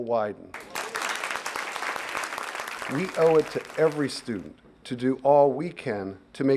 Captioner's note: applause